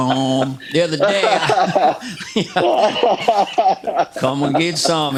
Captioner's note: laughter